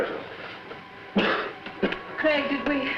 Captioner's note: Paul coughs